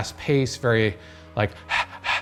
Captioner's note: huffing